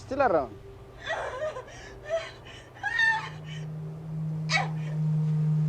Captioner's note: muffled Moans